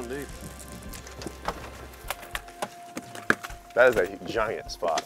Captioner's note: chatter